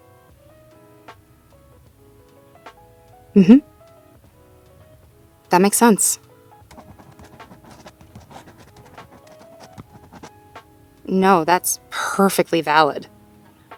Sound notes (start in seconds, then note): 6.6 writing sounds